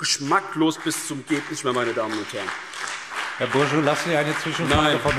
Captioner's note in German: Beifall BÜNDNIS 90/DIE GRÜNEN, SPD, DIE LINKE und vereinzelt CDU